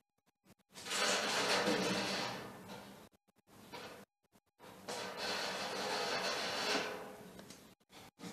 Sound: the sound of the movement of the rack on the floor

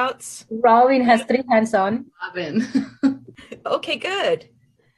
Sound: chuckles

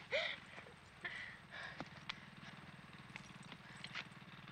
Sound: motor sound

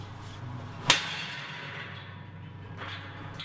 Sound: loud Metal Bang Sound

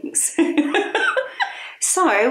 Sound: both laughing

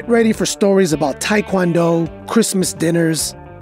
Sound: none

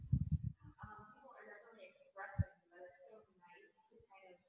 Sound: chuckles; guest murmuring

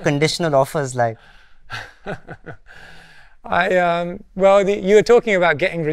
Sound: laughs

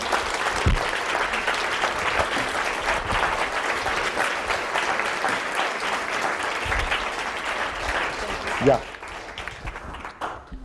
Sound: audience applause

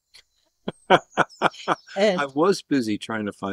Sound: laughter

